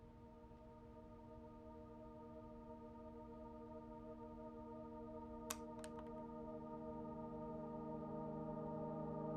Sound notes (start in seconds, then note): 5.5 cricket lands